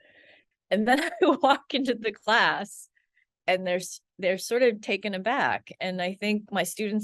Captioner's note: laughs